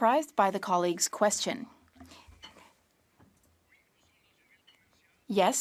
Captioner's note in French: voix de l'interprète